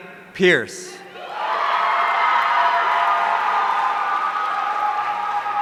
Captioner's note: audience cheering